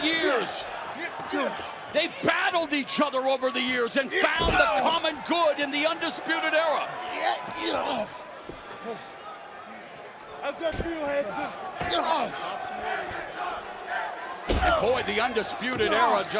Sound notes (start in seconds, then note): 7.4 crowd chatter; 12.3 crowd chatter